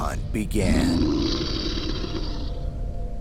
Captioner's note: animal growls